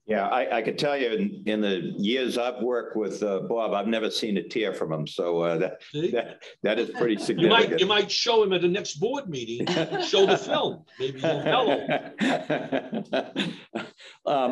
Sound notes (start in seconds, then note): 6.8 laughs; 9.6 groups laughs; 11.0 laughs